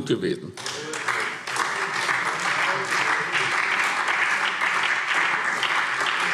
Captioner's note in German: Beifall SPD